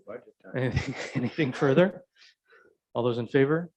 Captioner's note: chuckles